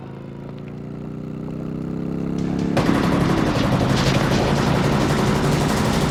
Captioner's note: motorcycle engine rumbling; gunshots firing; dramatic music